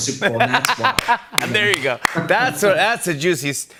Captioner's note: laughs